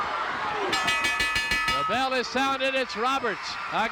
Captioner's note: bell rings